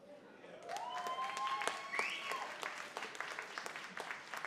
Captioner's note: cheering